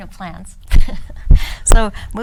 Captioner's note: woman laughs